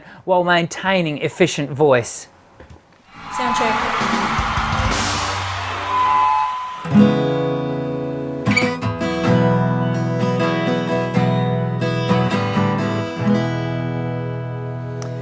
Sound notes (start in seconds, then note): 3.3 crowd cheering; 6.7 strumming guitar